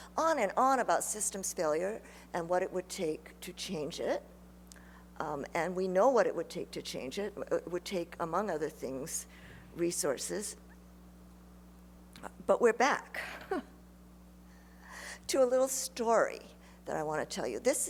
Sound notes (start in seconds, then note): 13.2 chuckles